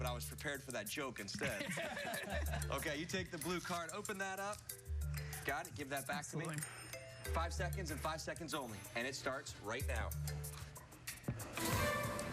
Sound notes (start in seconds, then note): 1.3 laughter